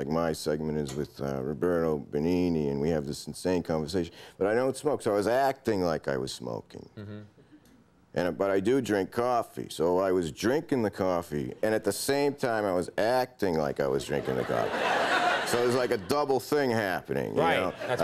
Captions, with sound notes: my segment is with Roberto Benigni and we have this insane conversation, but I don't smoke. So I was acting like I was smoking and, but I do drink coffee. So I was drinking the coffee, and at the same time I was acting like I was drinking a coffee. (audience laughing) So it was like a double thing happening.